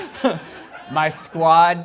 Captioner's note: laughter